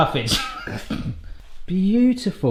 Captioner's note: laughing